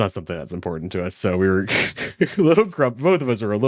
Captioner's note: laughs